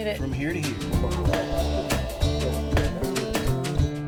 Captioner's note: hitting